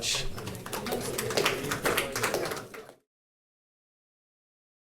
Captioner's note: audience applauding